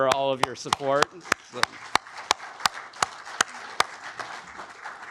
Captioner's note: audience applauding